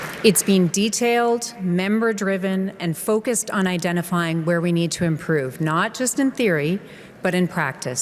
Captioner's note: applause